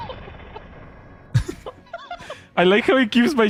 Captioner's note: laughter